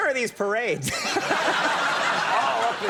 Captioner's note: everyone laughing